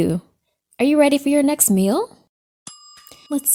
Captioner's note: oven timer dings